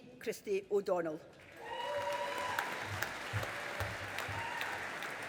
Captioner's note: audience applauding